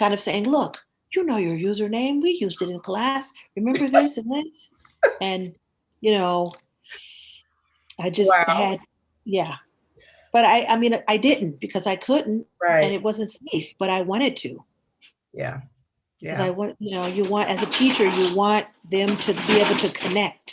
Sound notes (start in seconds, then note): 3.6 laughs